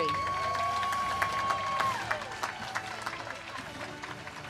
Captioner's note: audience cheers and claps